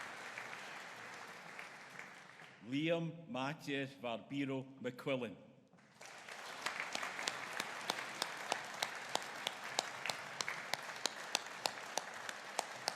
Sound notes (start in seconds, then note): 6.4 audience cheering